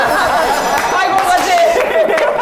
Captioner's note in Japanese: 一同：笑い